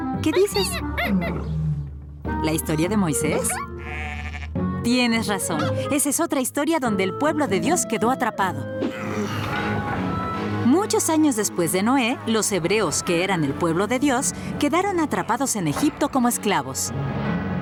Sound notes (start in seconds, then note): 0.2 squeaking; 8.8 grunting